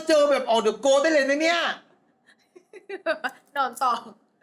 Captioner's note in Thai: เสียงหัวเราะ